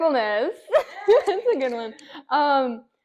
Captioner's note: laughing